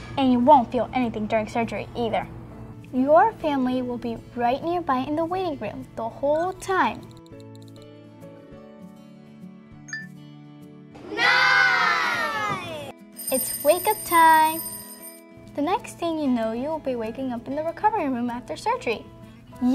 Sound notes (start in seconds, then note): 13.1 alarm clock